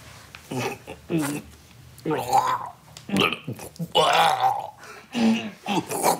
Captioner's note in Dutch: Hij gorgelt en maakt stikgeluiden